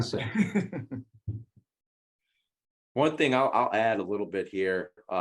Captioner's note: laugh